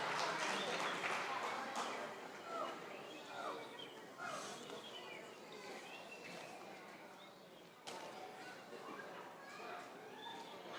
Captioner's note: applause